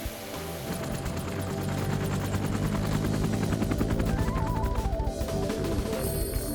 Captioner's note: helicopter engine revving; gentle music